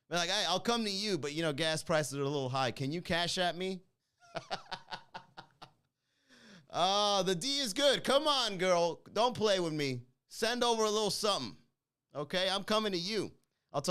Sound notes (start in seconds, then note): 4.2 laughing